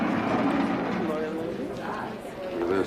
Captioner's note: inmates chattering